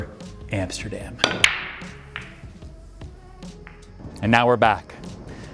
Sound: pool balls clack

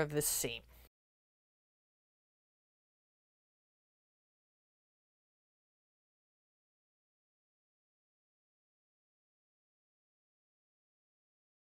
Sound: no Sound Present

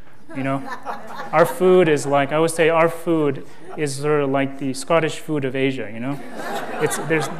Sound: laughter

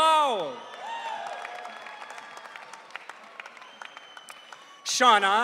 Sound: audience cheering

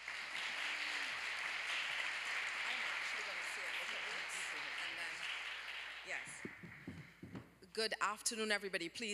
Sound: applause

